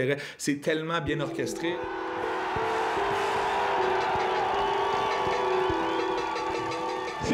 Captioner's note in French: cris de la foule